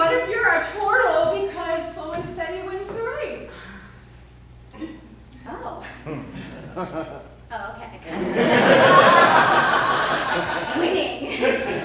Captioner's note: chuckles